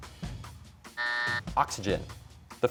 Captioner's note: buzzer